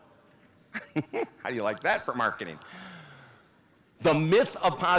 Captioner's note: laughs